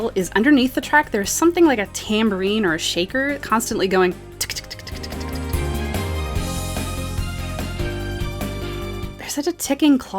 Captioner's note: tktktktktktk